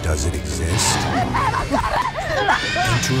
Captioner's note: woman screaming